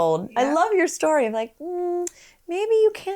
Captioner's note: hums